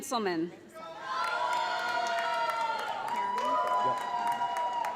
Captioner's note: audience applauds